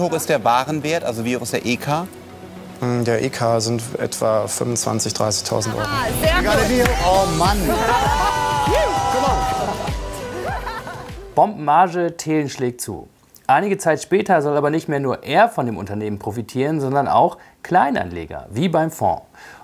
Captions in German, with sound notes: Wie hoch ist der Warenwert, der EK? Ähm, der EK sind in etwa 25.000 bis 30.000 Euro. Sehr gut! - Ich gratuliere. Oh Mann! (Feierliche Musik) Gebongt! (Jubel) Bombenmarge, Thelen schlägt zu. Einige Zeit später soll aber nicht mehr nur er von dem Unternehmen profitieren, sondern auch Kleinanleger.